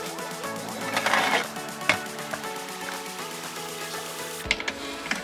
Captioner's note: sewing machine raving